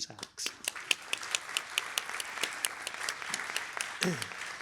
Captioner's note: applause